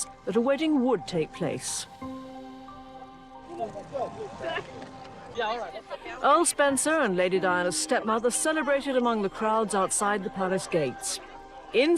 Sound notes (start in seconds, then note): 4.3 crowd chattering